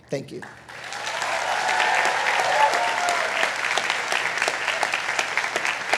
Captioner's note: attendees cheering and applauding